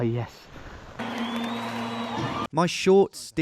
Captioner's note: crowd whistling